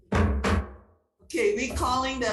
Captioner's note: gavel thumping